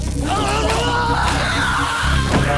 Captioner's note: screaming